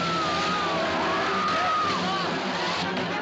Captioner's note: Gritando Continua